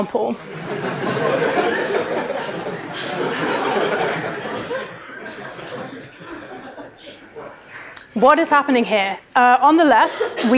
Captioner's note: laughter